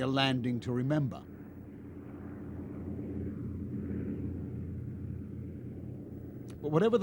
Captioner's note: plane humming